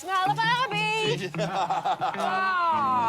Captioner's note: laughs